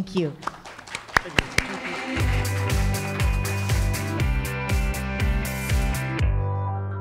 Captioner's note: audience applauding; gentle upbeat music